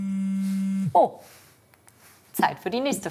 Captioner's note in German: Handy summt